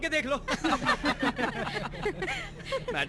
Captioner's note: all Laughing